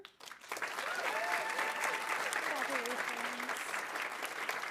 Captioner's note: audience applauding; audience cheering